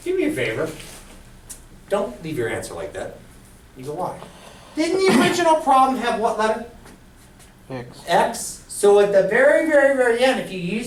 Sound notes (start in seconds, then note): 8.0 voiceover